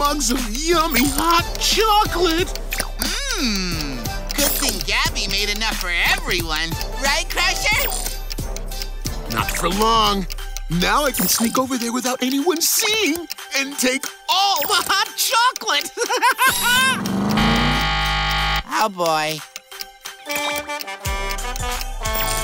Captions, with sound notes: of yummy hot chocolate. Mmm, good thing Gabby made enough for everyone, right Crusher? Not for long, now I can sneak over there without anyone seeing and take all the hot chocolate! [laughing] [buzzer ringing] Oh boy. [horn honking]